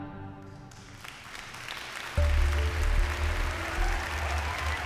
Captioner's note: applause and cheers